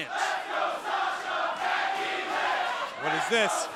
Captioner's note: crowd cheering